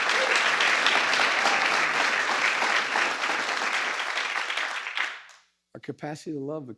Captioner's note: applause